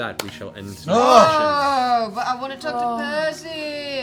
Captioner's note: groaning